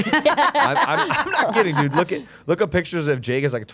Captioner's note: group laughing